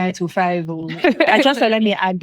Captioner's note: laughing